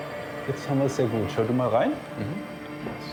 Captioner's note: speaks German